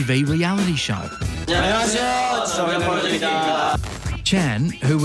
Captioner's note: all speak korean